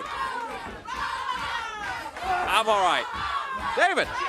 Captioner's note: crowd cheering